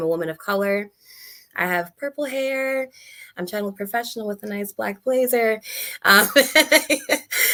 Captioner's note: laughs